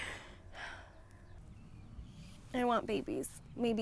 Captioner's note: Hope sighs